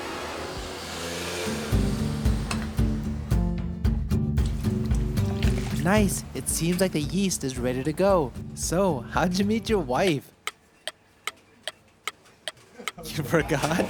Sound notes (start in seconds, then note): 10.2 tick-tock